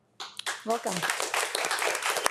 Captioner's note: group clapping